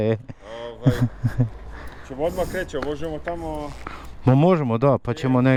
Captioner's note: laughter